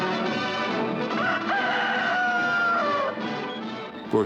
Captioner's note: rooster crows